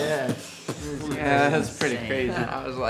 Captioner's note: band members mimicking fireworks